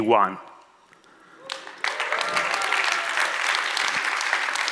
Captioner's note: audience applauds